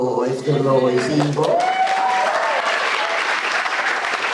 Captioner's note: applause